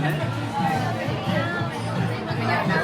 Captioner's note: crowd chattering